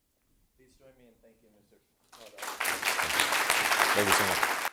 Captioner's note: applause